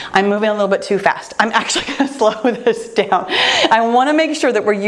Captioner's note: laughs